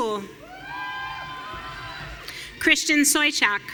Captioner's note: audience cheering